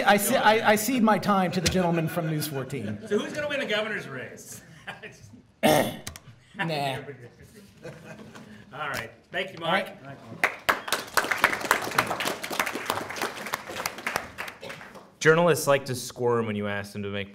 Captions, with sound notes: - No, I see my time to the gentleman from News 14. - So who's gonna win the governor's race? - Nah. - All right, thank you, Mark. (audience clapping) Journalists like to squirm when you ask them